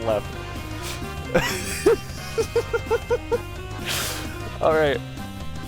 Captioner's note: laughing; trying not to laugh